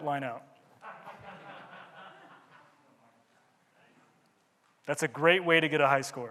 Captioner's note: audience laughing